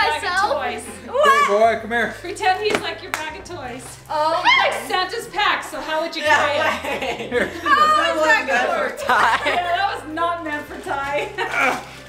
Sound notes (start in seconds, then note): 6.3 family laughing